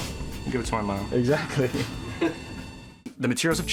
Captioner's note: men laughing